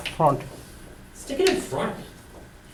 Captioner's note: voiceover